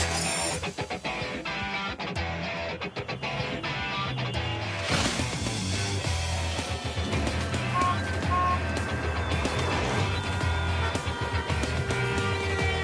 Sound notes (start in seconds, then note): 6.1 car horn honks; 10.5 car horn blares